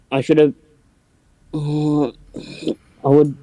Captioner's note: strains voice